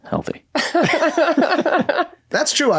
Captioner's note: all laugh